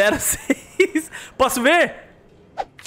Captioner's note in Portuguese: risos